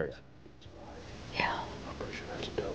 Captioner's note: whispering